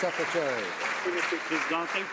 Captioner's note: some Applause